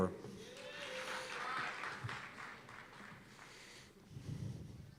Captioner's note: cheers and applause